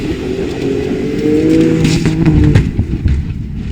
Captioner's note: crash